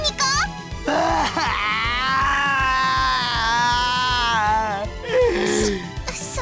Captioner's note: more bawling